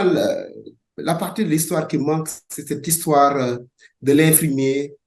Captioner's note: speaking in French